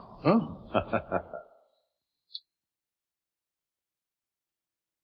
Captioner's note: Dr. Chumley laughing